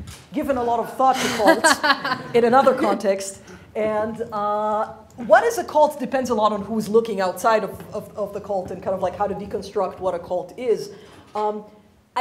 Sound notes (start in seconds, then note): 1.2 laughing